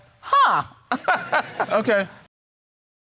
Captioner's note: chuckles